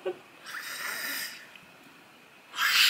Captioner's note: fangirl mode and silent screams x2